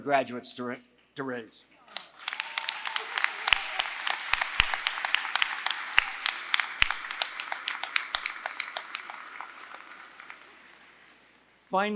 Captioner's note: applause